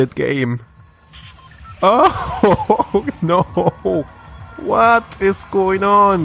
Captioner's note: laughs